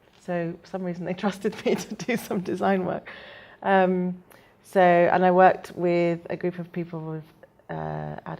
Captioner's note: laughs